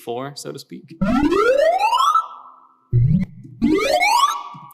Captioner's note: ascending electronic beeping